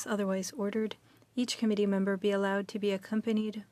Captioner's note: speaking french